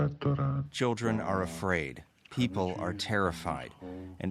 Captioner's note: speaking alternate language